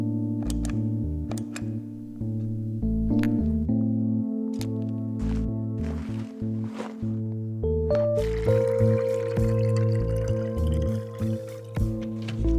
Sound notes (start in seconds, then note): 0.4 light clicking; 8.2 water trickling